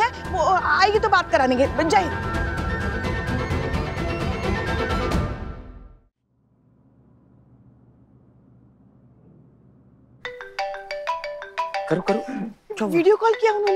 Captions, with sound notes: I'll ask her to call you when she comes back. Long Live India. [dramatic music] [phone ringing] She video called!